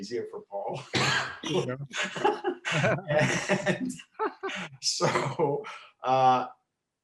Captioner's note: coughs; laughing